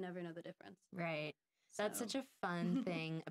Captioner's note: giggling